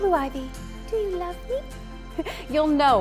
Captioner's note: giggles